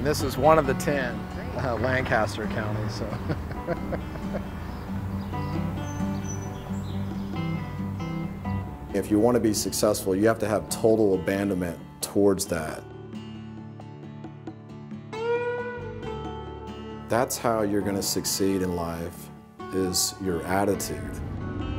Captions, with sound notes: And this is one of the 10, Lancaster County, so. (laughs) (guitar music) If you want to be successful, you have to have total abandonment towards that. (guitar music) That's how you're gonna succeed in life is your attitude.